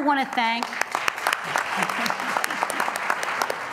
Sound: applause

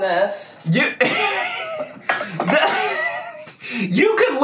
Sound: laughing

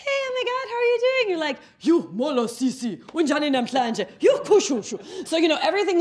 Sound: speaking in foreign language

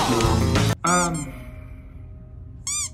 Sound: squeaker squeaks

